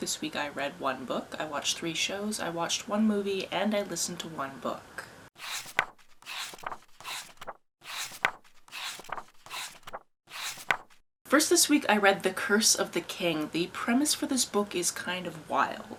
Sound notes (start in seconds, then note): 5.4 pages turning